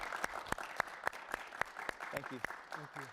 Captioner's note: audience applause